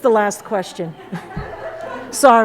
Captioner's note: laughter